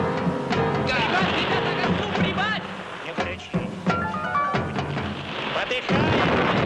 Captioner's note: soldiers yelling in foreign language